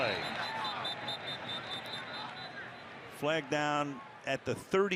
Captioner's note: whistle